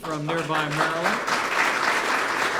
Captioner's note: applause